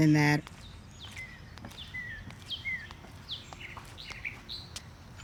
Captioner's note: birds chirping